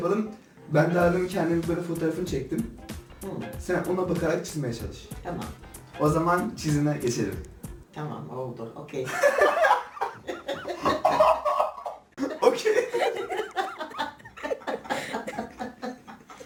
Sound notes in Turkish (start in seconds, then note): 9.2 gulme krızıııı; 9.5 gülme sesi; 13.8 gülme sesileri